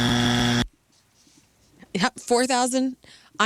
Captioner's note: buzzer